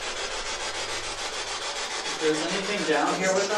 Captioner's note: scratching